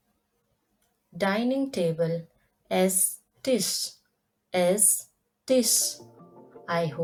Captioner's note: in German: Esstisch